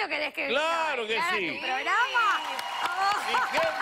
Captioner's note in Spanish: aplausos